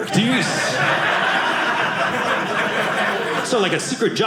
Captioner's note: audience laughing